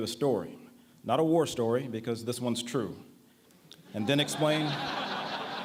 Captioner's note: laughter